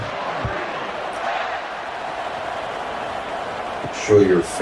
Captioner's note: crowd Noises